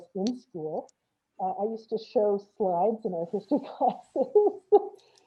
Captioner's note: laughs